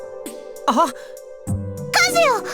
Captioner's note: equally surprised gasp